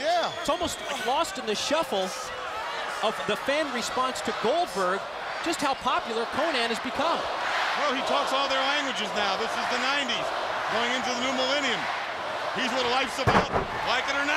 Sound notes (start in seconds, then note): 9.6 crowd cheering